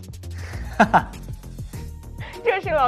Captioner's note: haha